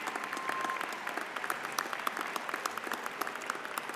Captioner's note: cheering